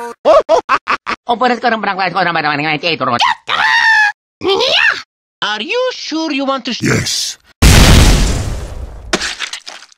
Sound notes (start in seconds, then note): 7.6 boom!